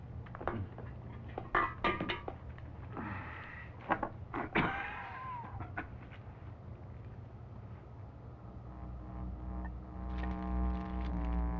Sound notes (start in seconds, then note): 4.4 coughing; 8.5 trumpet music